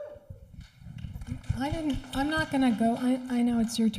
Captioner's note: audience applauding